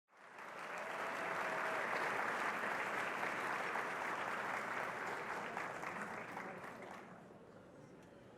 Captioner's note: applause